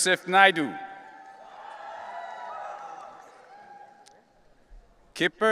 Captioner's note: audience cheering